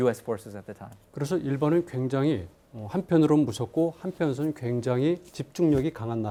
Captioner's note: speaking in Korean